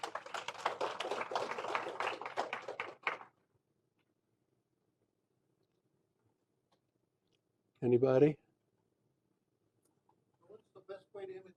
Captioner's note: applause